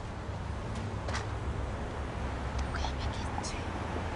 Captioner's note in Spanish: Chasquido bucal